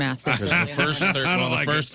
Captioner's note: laughing